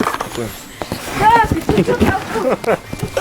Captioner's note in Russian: смех